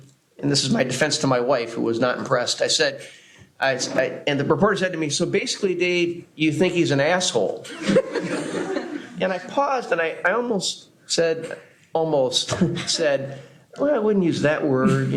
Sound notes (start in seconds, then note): 7.6 laughter; 12.3 laughs